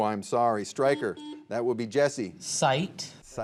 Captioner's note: buzzer beeping